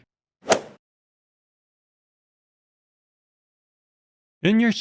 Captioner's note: golf swing sound effect